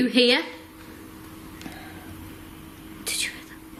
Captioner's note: voice whispers